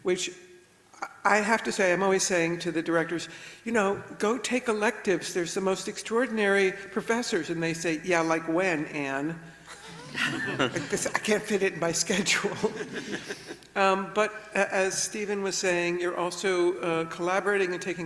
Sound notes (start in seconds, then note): 9.7 everybody laughs; 12.3 laughs; 12.6 everybody laughs